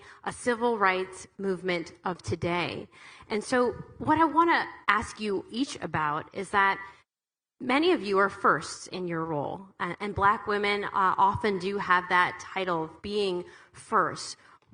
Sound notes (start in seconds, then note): none